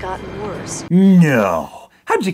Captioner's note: sarcastically